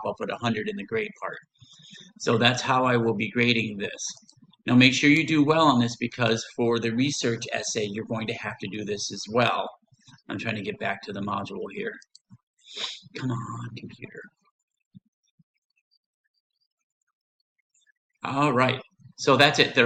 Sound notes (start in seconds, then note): 12.7 sniffs; 14.3 silence